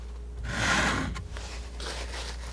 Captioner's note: scratching